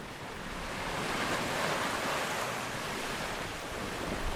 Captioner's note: waves crashing